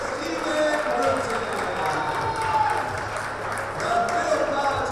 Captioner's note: clapping and cheering